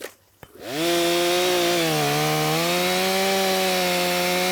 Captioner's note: chainsaw whirring